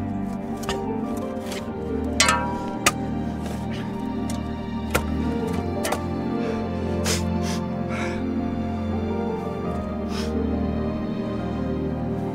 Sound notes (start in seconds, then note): 6.3 breathes heavily